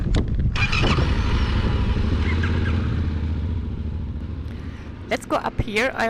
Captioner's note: motorbike roaring